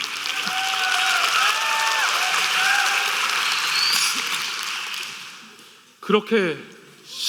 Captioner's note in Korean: 박수 및 환호